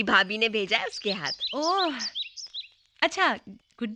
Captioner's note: birds - Chirping